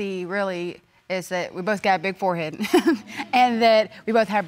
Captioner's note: chuckles